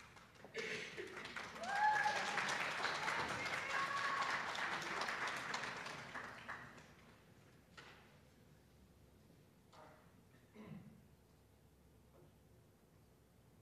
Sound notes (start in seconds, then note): 2.5 audience applauds and hoots